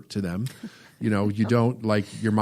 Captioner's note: laughs